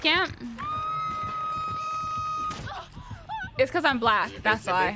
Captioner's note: woman wailing